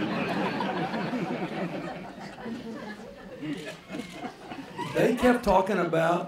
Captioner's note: laughter